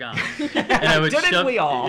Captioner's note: laughs